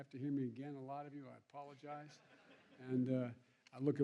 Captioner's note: laughter